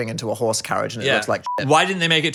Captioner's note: beep